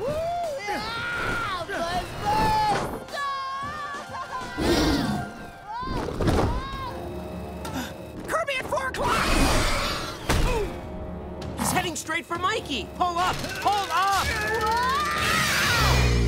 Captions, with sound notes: [screaming] Buzz buzz! [screaming] [screaming] Kirby at 4:00! Heading straight for Mikey. Pull up, pull up! [screaming]